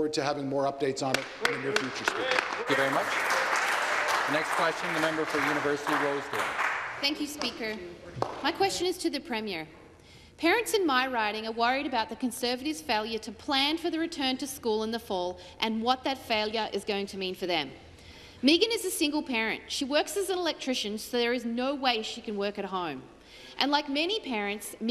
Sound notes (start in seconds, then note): 5.9 applause